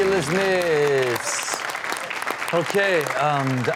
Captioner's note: audience clapping